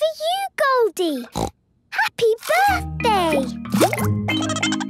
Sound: snorting; Goldie giggling

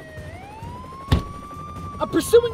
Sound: door slams

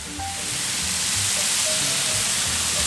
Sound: sizzling

